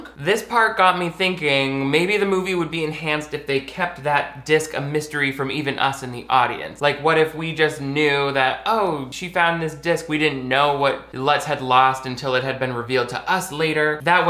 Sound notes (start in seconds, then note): none